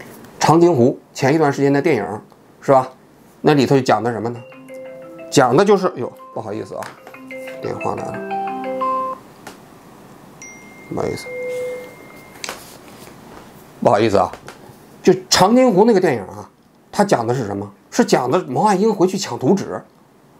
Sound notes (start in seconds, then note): 10.4 phone tone